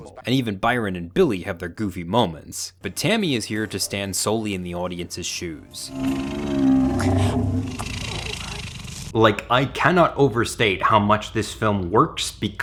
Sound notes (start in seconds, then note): 5.5 dinosaur growls; 7.3 sniffles